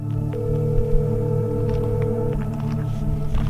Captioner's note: soft music; phone ringing